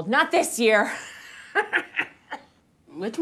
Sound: laughs manically

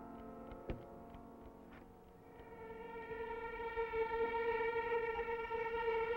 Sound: ticking

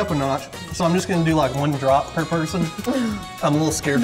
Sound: laughter

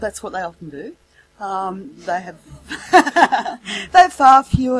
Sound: laughs

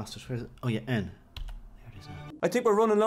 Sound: click

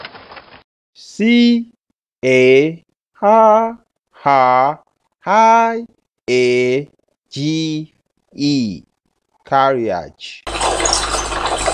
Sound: carriage Sound

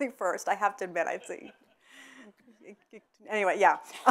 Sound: audience members laughing

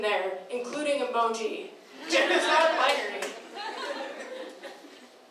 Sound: laughing

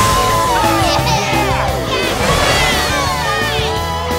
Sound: cheering

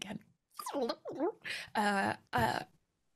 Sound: rewinding sound

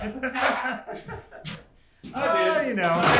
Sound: both laugh out loud

